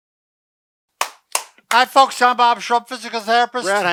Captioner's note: claps